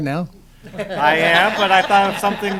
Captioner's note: laughter